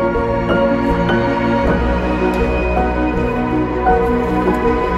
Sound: none

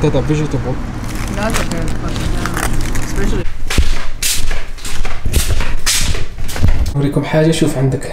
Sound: صوت الأقدام

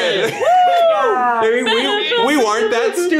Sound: all whooping and cheering loudly

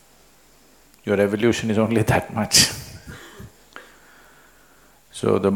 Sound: laughs

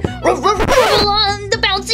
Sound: Rubble barking

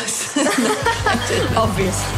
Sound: laughter

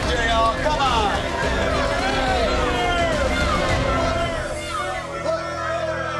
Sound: boos

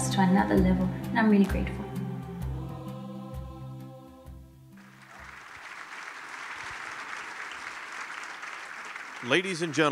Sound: applause

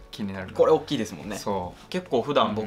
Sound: laughs

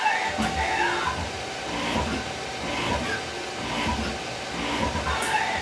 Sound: sound of rushing air during tool change and spindle raising/dropping; sound of material being cut; sound of rushing air during tool change and spindle raising/dropping

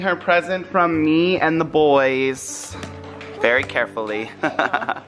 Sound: laughs

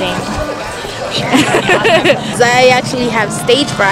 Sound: laughs

